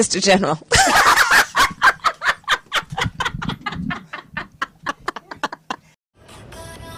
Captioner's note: laughs